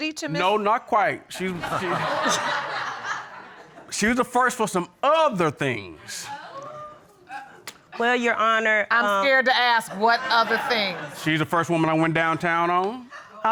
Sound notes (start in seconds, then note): 1.4 audience laughing; 6.1 audience exclaiming